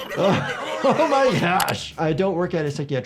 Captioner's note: gasps